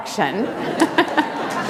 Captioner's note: laughter